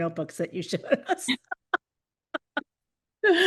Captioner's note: laughter